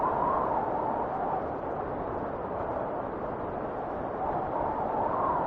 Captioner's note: wind whistling continues